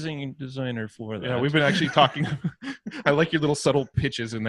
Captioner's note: laughter